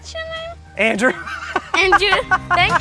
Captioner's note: laughs